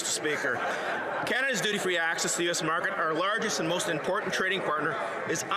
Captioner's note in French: voix de l'interprète